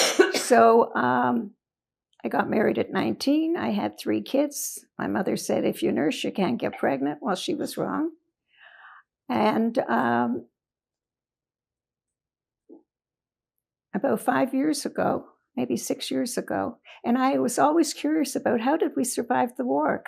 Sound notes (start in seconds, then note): 9.2 pauses 4 seconds